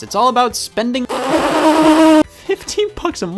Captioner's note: spitting